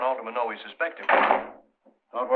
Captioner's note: door closes